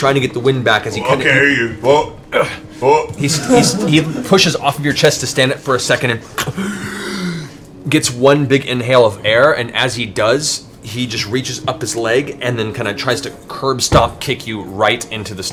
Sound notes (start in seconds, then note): 6.5 gasps